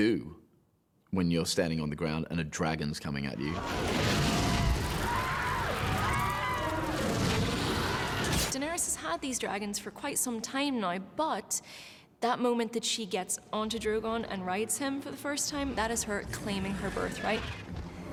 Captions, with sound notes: when you're standing on the ground and a dragon's coming at you. (SCREAMING) Daenerys has had the dragons now for quite some time now but that moment she gets on Drogon and rides him for the first time, that is her claiming her birthright.